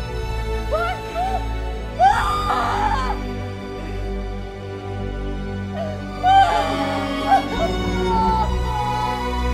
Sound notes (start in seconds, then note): 2.0 Screaming; 5.8 Crying